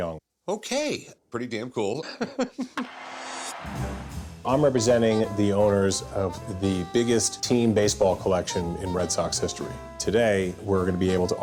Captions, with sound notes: - Okay, pretty damn cool. [laughs] [bat cracks] [crowd cheers] - I'm representing the owners of the biggest team baseball collection in Red Sox history. Today we're gonna be able to offer